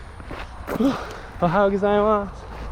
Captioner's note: speaking in foreign language